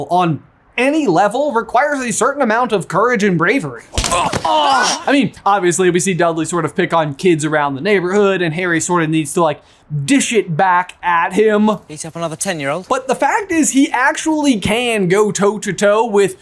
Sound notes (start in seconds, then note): 3.9 fist thwacks; 3.9 Draco groans